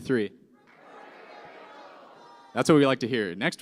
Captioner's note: shouting